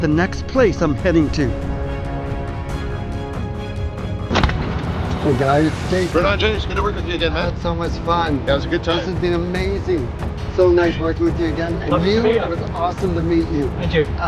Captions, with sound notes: the next place I'm heading to. (suspenseful dramatic music) (door slams shut) - Hey, guys! Jason. - Right on, Jase! Good to work with you, man! - I had so much fun! - That was a good time. - This has been amazing! So nice workin' with you again. And you- - Lovely to meet ya! - It was awesome to meet you. - A pleasure.